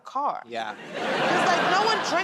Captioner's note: laughter